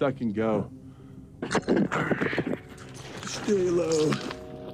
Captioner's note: microphone rumbling